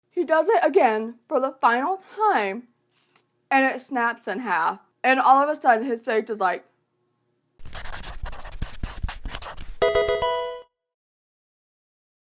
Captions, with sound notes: He does it again for the final time and it snaps in half and all of a sudden his face is like... [pencil writing] [game sound]